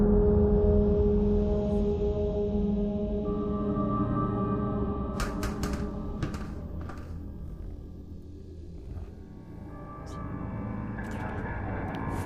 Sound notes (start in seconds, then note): 5.2 light sphere clattering